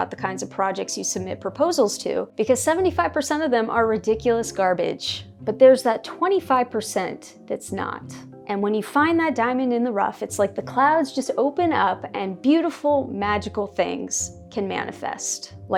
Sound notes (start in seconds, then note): none